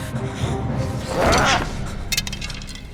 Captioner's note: voldemort grunts